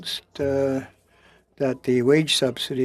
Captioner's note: speaking French